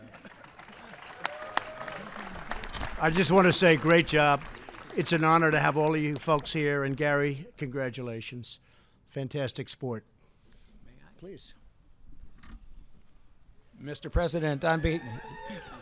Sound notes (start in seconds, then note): 3.2 applause